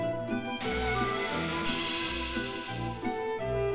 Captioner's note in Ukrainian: грюкіт